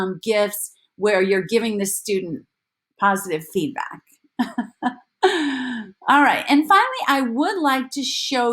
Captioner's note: laughter